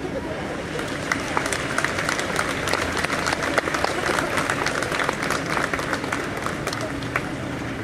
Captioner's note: applause